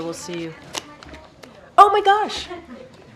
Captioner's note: laughter